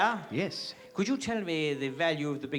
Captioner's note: british accent